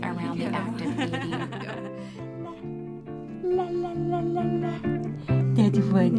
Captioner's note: laughter